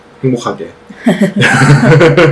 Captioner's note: laughs